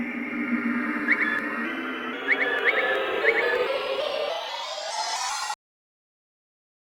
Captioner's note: noise intensifies